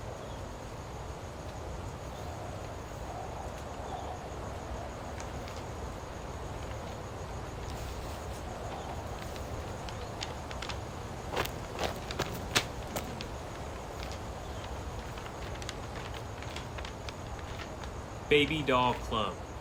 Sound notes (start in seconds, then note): 0.2 wind continues whooshing; 5.5 paper rustling; 11.2 wind continues whooshing